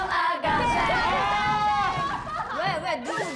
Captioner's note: agh!